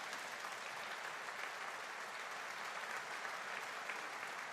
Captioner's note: audience applauding